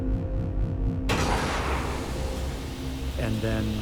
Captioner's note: hissing